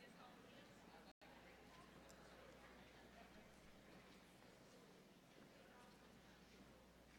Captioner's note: general chatter